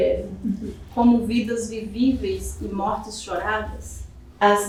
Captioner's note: speaking portuguese